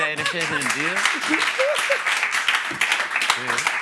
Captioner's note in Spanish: Aplausos